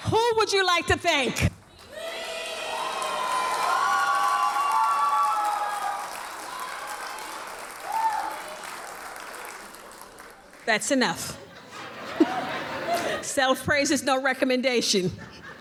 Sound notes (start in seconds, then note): 3.7 audience cheers and applauds; 11.4 audience laughs